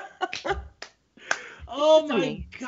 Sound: both laugh

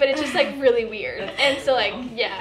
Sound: laughter

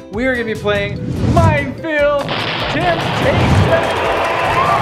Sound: crowd cheering

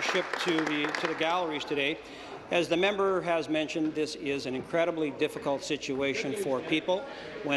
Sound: applause

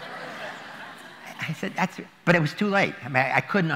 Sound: laughter

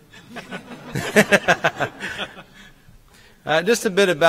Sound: laughing

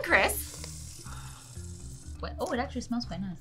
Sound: sucks in air

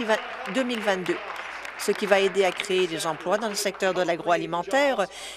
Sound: applause

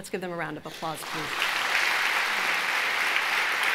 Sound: applause

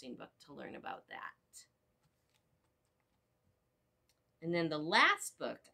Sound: silence

